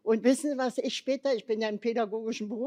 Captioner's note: none